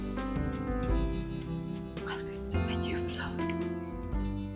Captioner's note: whispering